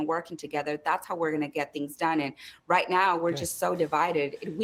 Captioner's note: speaking spanish